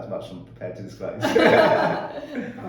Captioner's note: laughing